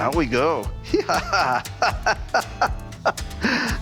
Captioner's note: laughs